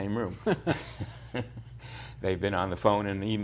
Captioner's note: laughter